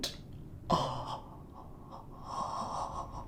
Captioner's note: mockingly